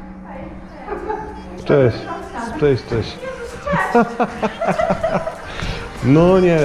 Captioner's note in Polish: śmiech